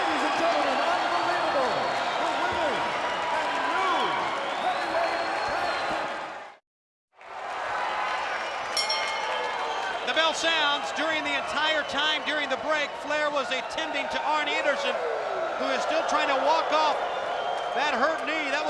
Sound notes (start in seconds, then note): 7.5 spectators cheering; 8.7 bell rings